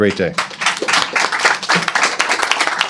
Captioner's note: applause